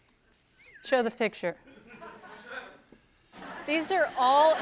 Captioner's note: laughter